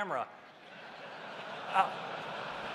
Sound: laughter

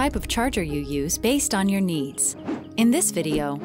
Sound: air whooshing

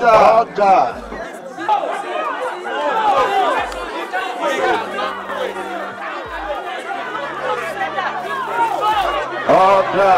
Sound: chatters continue

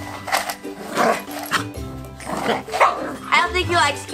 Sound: Wiggles barks at Shade; Wiggles barks

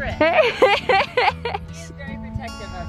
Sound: laughs

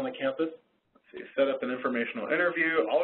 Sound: voiceover

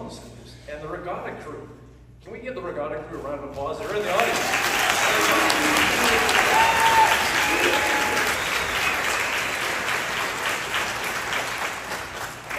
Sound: applause

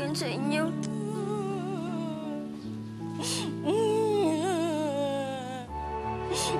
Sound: Esther crying continues

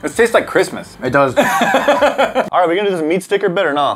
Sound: laughs

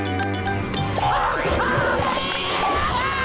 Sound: screaming

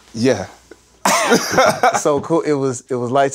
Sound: laughs

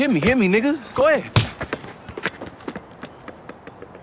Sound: fist punching

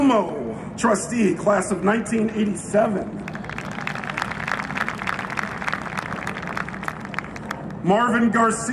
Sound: applause

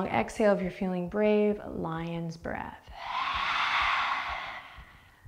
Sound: exhaling

